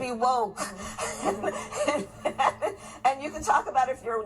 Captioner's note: laughing